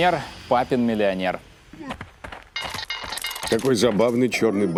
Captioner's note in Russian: звуки игры